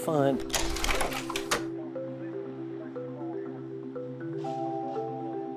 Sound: slide projector clicks

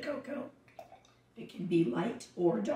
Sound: liquid glugging

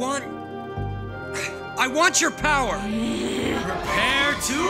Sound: growls

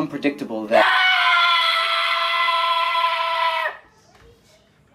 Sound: high-pitched scream

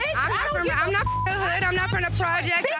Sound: beep

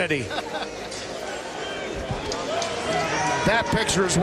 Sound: crowd cheering

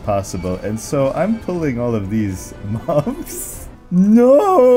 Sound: haha

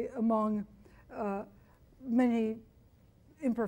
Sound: none

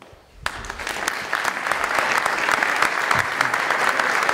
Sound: applause

